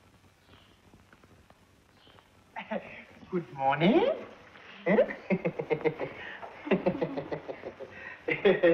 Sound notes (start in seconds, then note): 4.8 laughing